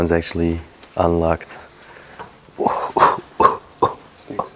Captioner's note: coughing